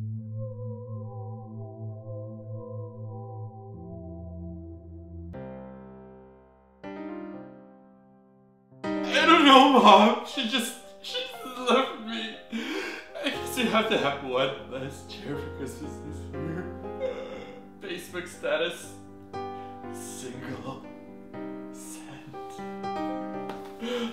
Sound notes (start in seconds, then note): 0.1 sad music; 11.0 starts sobbing